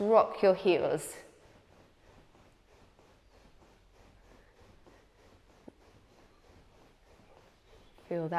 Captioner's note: rustling sound